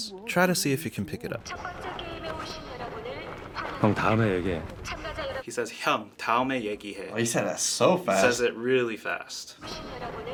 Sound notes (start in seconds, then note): 6.4 speaks Korean